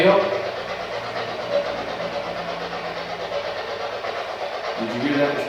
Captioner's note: white Noise